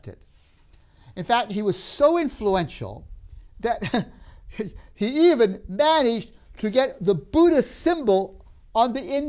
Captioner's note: laughs